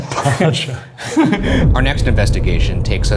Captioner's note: both laughing